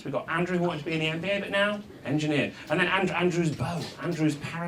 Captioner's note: none